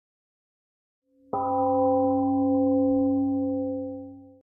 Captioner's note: temple gong rings and fades